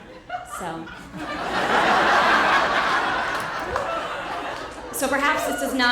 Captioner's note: audience laughter